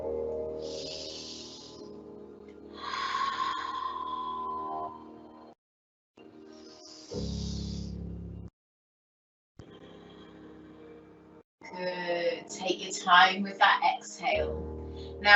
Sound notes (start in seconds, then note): 0.5 inhales deeply; 0.6 exhales deeply; 6.6 inhales deeply; 6.7 exhales deeply